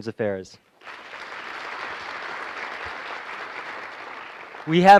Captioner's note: applause